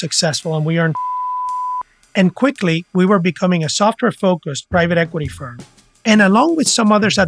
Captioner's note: beep